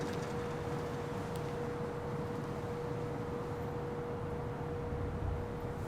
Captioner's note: vehicles rumble faintly